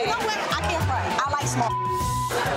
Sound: beep

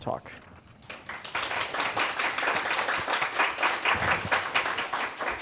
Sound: audience clapping

